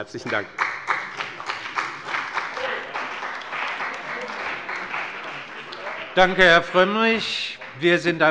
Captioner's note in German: Beifall bei dem BÜNDNIS 90/DIE GRÜNEN und der CDU